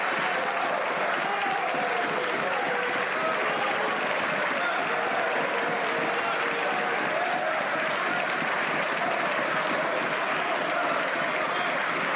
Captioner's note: some Applause